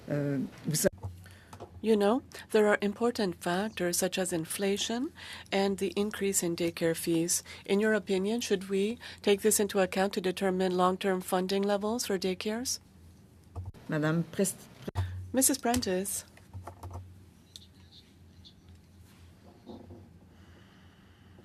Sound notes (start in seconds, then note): 4.1 speaking in French